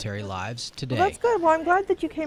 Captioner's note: nat Sound pop